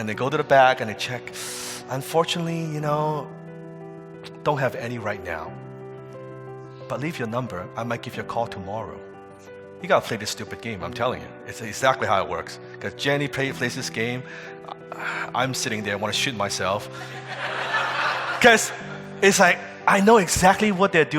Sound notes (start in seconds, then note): 17.0 audience laughing